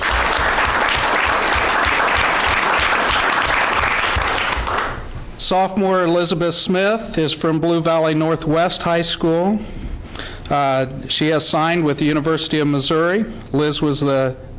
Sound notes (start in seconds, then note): 0.0 applause